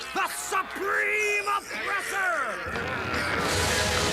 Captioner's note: crowd murmuring